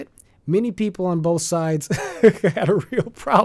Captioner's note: laughs